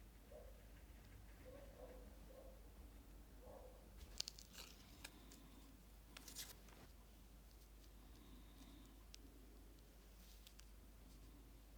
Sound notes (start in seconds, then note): 4.3 paper rustling